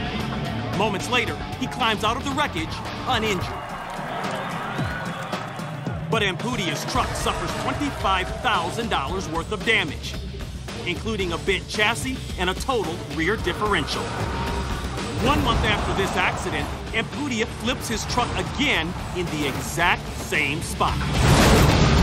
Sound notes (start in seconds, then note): 3.5 cheers and applause